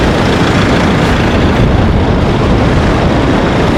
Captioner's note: blizzard sounds, snow storm sounds